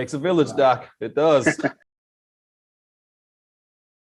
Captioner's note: laughing